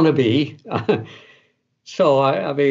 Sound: laughs

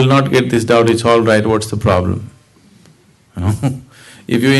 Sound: laughs

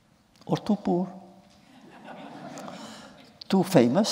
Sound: laughter

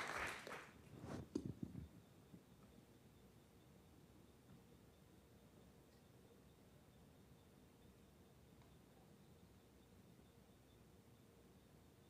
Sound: applause

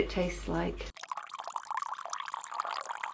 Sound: milk pouring

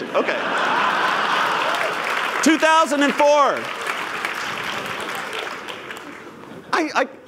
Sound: laughter; applause

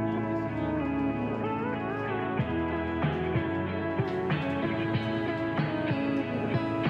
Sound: group chatter

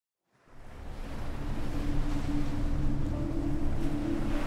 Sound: wind howling; gentle music

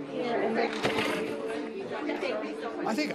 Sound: election workers chattering

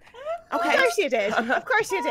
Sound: laughing

